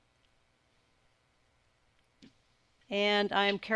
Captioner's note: silence